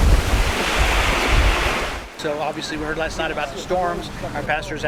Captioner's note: high Wind